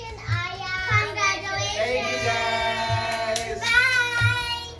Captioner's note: overlapping chatter